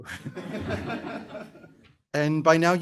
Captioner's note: audience laughing